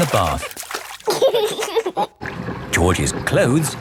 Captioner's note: giggling